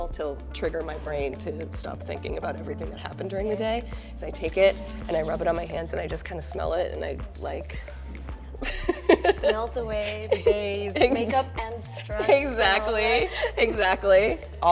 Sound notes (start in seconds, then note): 8.6 laughing